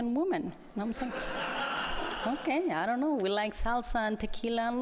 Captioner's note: laughter